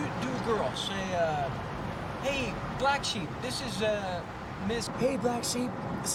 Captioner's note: in a "woman's voice"